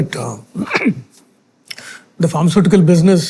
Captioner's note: clears throat